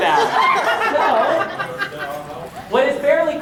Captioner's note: audience laughter